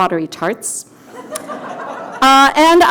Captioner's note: audience laughter